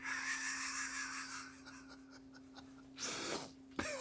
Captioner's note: laughing